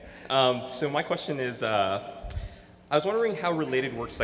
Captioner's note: laughs; voiceover